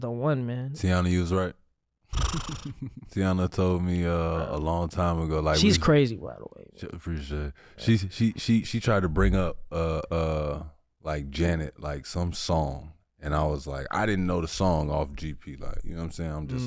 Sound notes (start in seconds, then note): 2.1 blows air; 2.2 chuckles